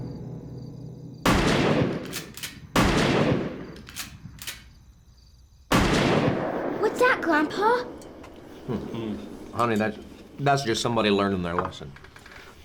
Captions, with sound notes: (gunshots) What's that, Grandpa? Honey, that's just somebody learning their lesson.